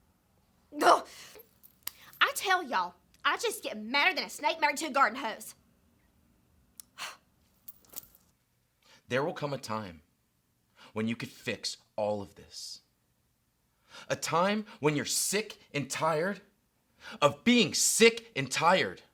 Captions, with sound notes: Ugh. I tell y'all, I just get madder than a snake married to a garden hose. (Allie sighs) - There will come a time when you could fix all of this. A time when you're sick and tired of being sick and tired.